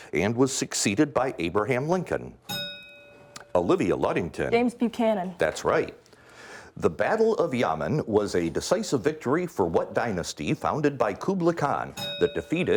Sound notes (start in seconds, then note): 2.4 bell dings; 11.9 bell dings